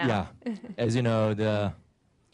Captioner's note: laughter